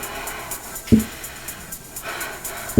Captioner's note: tapping